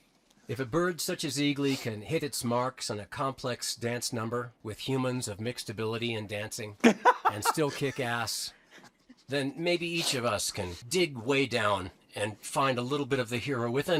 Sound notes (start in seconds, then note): 6.8 laughs